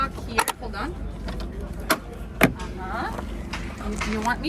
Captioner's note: lock clicks